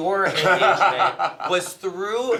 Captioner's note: laughter